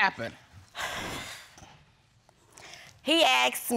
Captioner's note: sighs